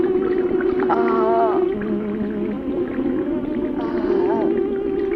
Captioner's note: groaning